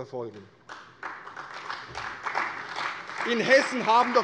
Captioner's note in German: Beifall bei der CDU und dem BÜNDNIS 90/DIE GRÜNEN